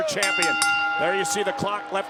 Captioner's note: bell dinging